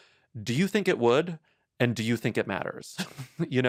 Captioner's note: chuckles